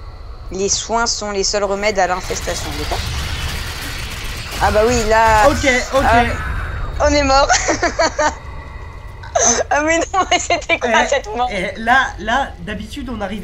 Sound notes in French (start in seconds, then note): 7.4 Rire débile